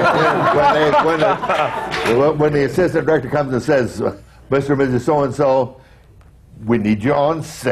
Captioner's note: laughter